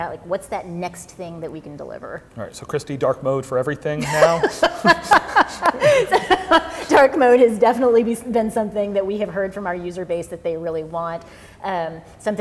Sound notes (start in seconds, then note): 4.0 chuckles; 4.0 laughs